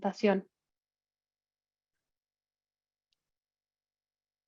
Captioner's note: silencio